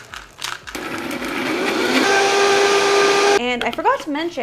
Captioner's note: blender whirring